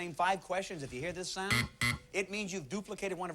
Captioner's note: buzzer